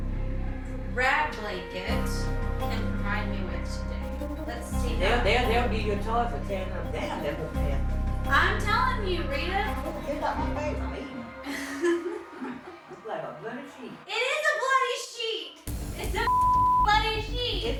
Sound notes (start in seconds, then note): 11.7 laughs